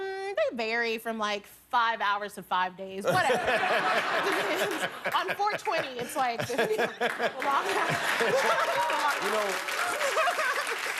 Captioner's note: laughter